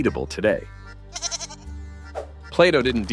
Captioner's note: weird goat noises